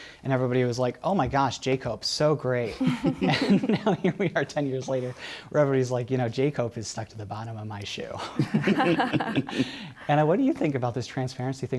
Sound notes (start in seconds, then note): 2.7 laughter; 8.2 laughter